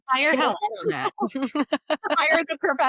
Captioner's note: laughing